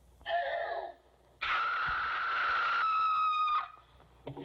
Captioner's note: gasps, Screams